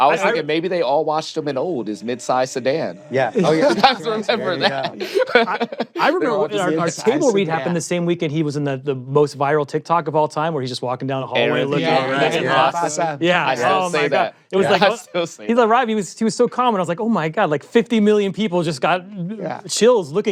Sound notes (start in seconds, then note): 3.0 laughing; 3.4 laughter; 11.5 all agreeing